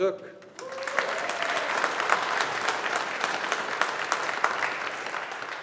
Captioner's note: audience applauding